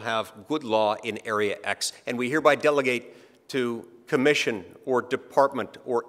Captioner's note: none